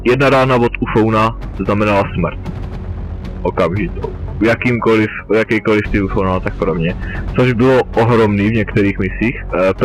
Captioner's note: sarcasm